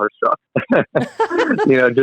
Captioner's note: laughing